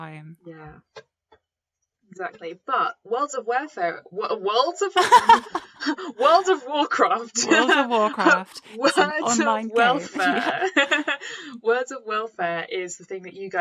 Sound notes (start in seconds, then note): 5.0 laughs